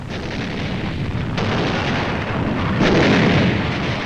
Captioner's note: guns firing